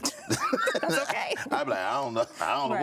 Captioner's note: laughing